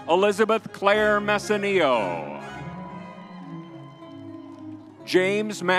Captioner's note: crowd cheering